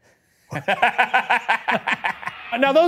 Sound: laughs

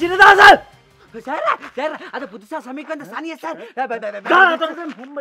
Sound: Speaking in Tamil

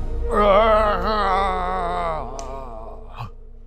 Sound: dad groaning

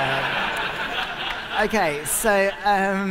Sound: laughter

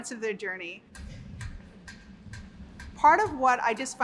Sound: tick-tocking sound

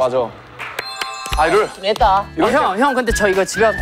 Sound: applause to cool ourselves

